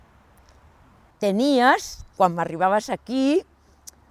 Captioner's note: in catalan